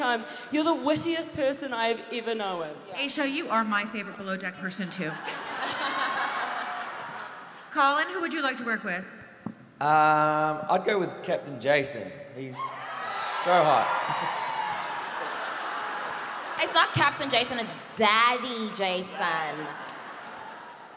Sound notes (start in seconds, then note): 12.6 audience cheering